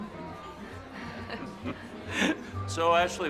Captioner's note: all chuckling